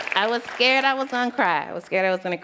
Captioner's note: applause